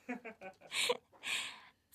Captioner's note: cute laugh